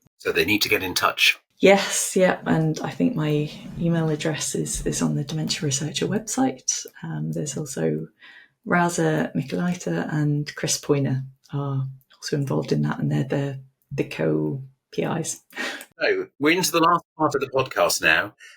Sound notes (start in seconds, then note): 16.0 chuckles